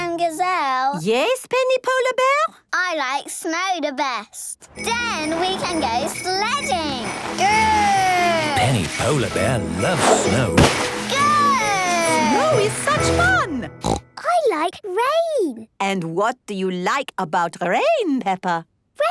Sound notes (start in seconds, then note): 13.7 snorting